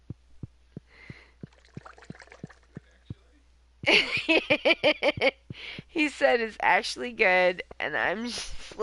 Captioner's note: laughing